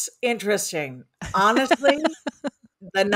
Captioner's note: laughs